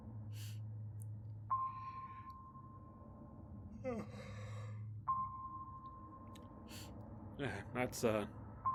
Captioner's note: yawn